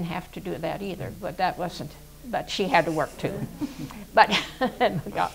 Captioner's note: laughs